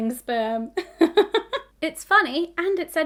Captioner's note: laughing